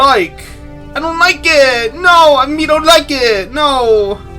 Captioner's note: distressed caveman voice; distressed caveman from New York voice